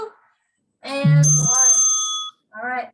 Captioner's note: bell rings